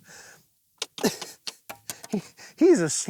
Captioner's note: laughs